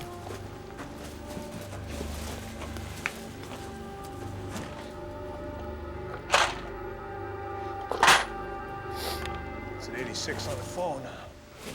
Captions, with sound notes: (rattling) - That's an 86 on the phone.